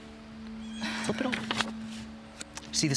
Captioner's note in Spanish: Debra suspira